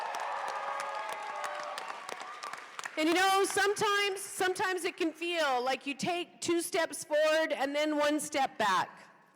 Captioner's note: applause